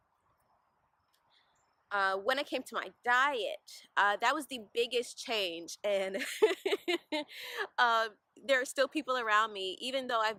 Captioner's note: laugh